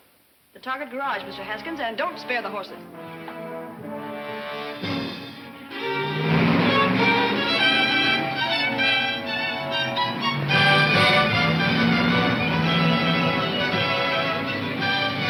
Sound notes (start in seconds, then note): 3.5 suspenseful music; 6.5 engine roaring